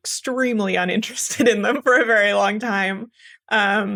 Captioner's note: laugh